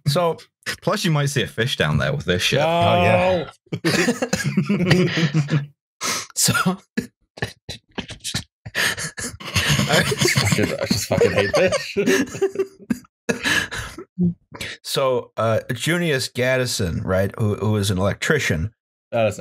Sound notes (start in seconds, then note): 3.7 laughter; 6.8 chokes on laughter; 7.4 laughter; 12.0 laughter